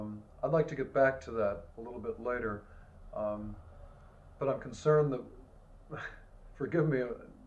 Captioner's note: laughs